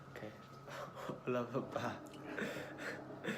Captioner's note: awkward Laugh